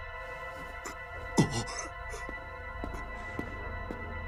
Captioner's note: breathing heavily; gasps